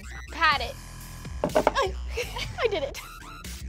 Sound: knocking

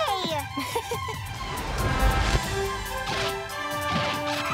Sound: Khye chuckles

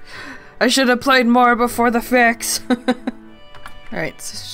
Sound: laughs

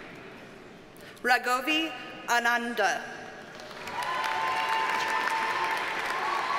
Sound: audience cheers and applauds

